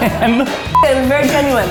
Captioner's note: laughing